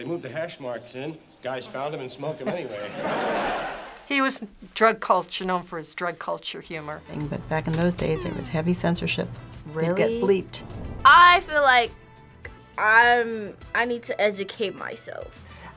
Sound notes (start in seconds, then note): 2.4 audience laughs; 2.4 laughs